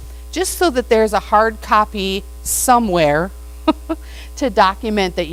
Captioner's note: laughs